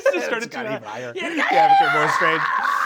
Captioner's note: Brennan screeching